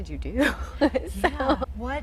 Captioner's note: laughing